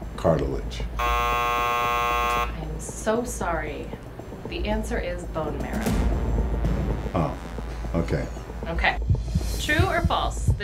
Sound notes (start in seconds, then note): 1.0 beeping; 6.1 disappointed music